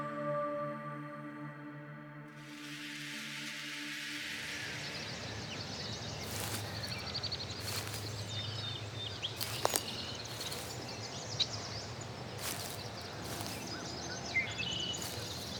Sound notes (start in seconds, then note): 4.2 nature and footsteps